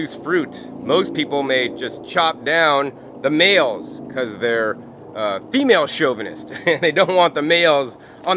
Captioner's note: laughing